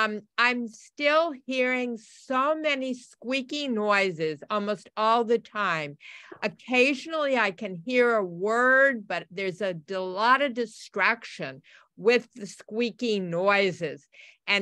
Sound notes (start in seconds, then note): none